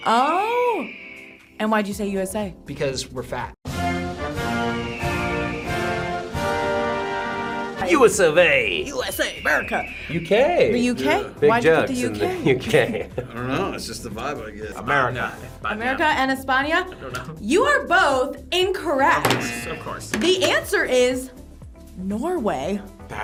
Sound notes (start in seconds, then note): 3.8 eagle screeches; 12.4 laughs; 19.2 buzzer